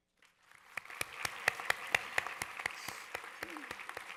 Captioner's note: audience applause